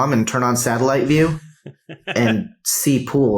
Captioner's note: laughs